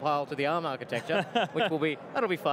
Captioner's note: laughs